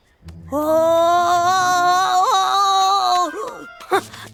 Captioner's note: shocked gasping